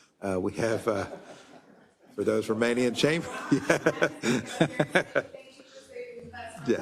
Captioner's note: laugh